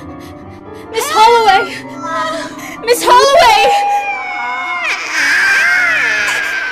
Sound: tree-people screeching

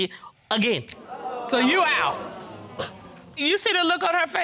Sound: audience jeering

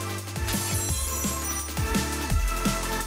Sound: upbeat techno music; glass breaking; upbeat techno music

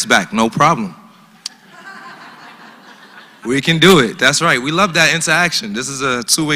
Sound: laugh

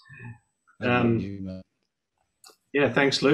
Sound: audio warps

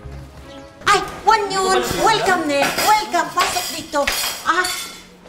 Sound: in Korean-ish

